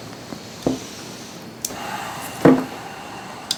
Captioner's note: Tex sighs